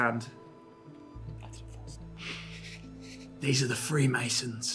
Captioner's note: whispers